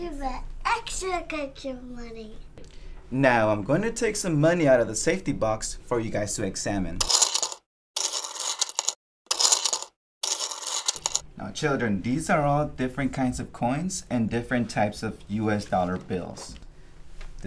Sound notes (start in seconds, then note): 7.3 coins clicking